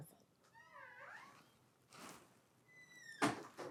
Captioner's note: door creaking